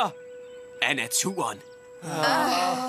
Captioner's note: groaning